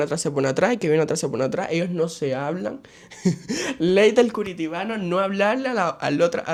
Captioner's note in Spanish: risas